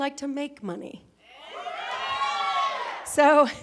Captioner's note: cheering